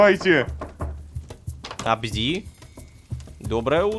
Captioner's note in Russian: Стук в дверь